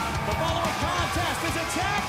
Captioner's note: bell ringing